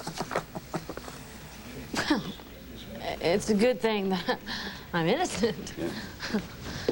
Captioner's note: nora chuckles